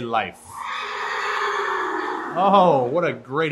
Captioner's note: horse neighs